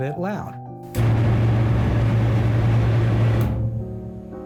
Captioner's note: engine rumbling